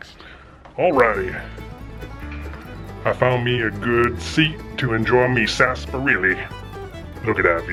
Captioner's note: deep voice